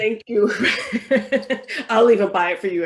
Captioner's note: laughs